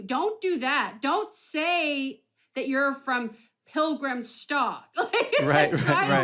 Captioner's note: laughs